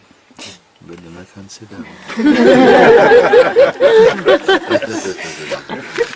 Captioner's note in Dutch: gelach